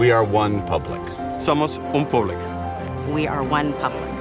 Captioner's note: non-english speech